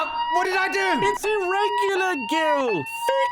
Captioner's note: voiceover